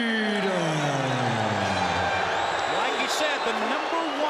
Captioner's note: crowd cheering